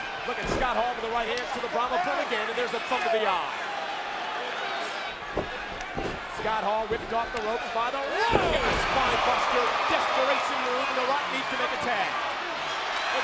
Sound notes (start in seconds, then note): 0.0 fists thudding; 9.2 Scott Hall thudding